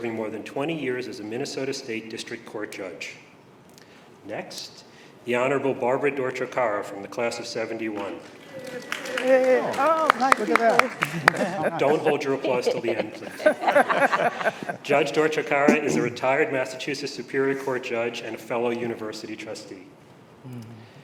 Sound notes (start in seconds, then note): 8.2 applause; 11.0 laughter